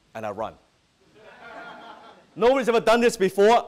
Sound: audience laughing

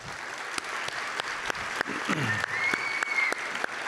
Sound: claps

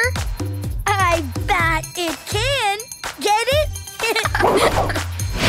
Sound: laughing

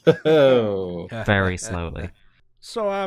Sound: laughter

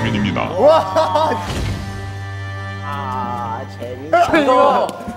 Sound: crash

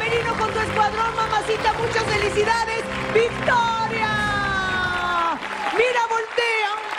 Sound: applause

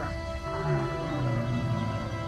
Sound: loud roaring

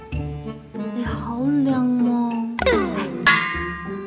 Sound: speaking Cantonese

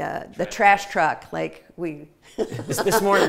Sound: laughing

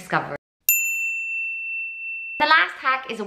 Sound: bell dinging

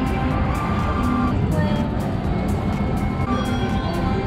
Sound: machine whirring

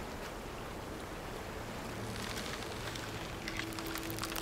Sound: creaking

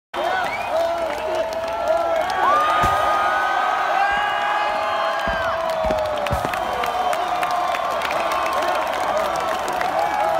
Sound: applause

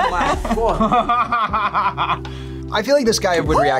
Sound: laughs

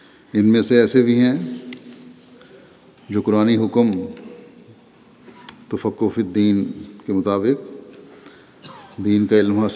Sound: Arabic

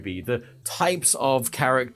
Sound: none

